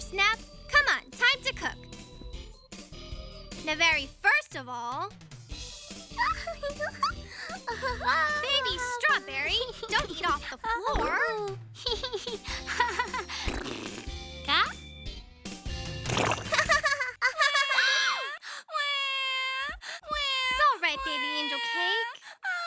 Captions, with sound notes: COME ON. TIME TO COOK. NOW, VERY FIRST OF ALL-- [ Laughing ] [ Babbling, Laughing ] BABY STRAWBERRY! DON'T EAT OFF THE FLOOR! [ Laughing Continues ] GA? [ Crying ] [ Gasps ] IT'S ALL RIGHT, BABY ANGEL CAKE.